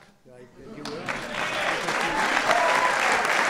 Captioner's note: applause